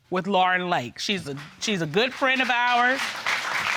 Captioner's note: audience applauding